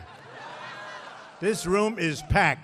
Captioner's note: laughter